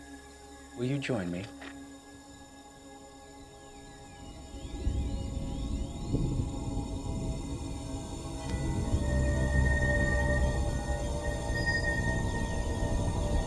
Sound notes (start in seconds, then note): 4.7 thunder rumbling; 5.8 ethereal music builds; 8.6 blue rock pulsing